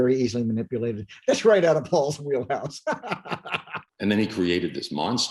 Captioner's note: laughs